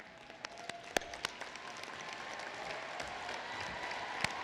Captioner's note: applause